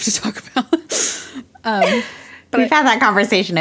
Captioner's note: both laugh